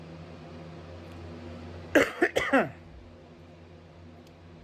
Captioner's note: coughs